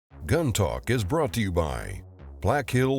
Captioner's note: voiceover